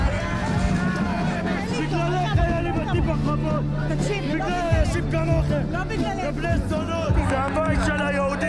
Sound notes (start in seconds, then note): 2.2 speaking foreign language